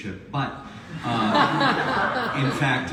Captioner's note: audience laughs